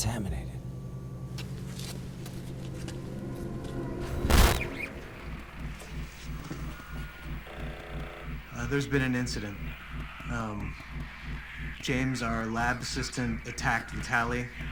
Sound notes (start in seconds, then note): 3.9 static